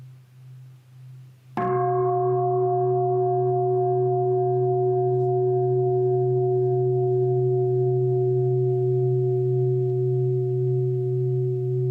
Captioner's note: bell